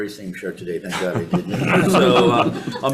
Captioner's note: committee members laugh